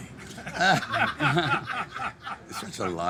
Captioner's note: everyone laughing